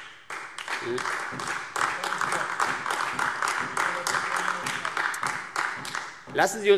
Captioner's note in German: Beifall AfD